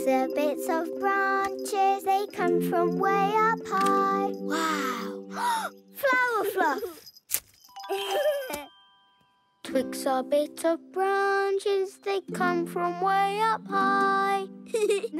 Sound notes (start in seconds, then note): 4.6 gasps; 7.8 giggles; 14.7 giggles